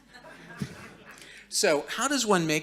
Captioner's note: audience laughing